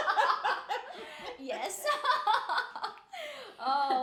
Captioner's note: laughing